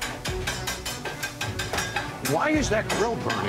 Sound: metal banging

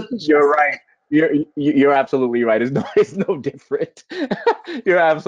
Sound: laughing

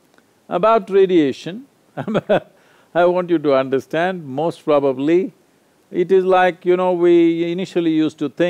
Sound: laughs

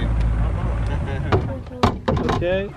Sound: chuckles; pats

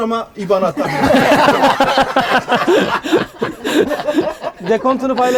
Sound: laughs

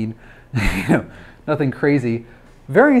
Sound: laughs

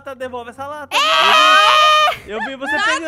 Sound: screaming

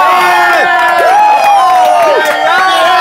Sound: sound of cheering

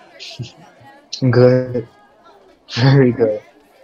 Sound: laughs

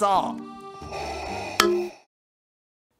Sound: boink

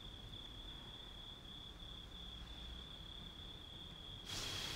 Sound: crickets chirping

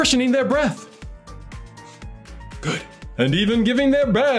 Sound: breath sounds

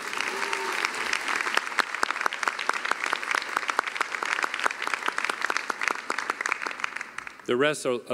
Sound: applause

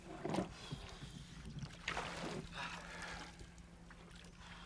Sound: exhales

